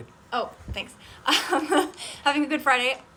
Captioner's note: laughs